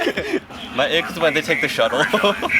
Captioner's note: shuttle Noises